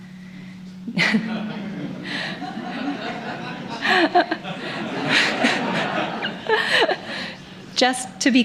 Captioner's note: laughter